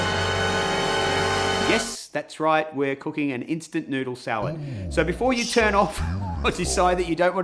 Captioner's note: laughs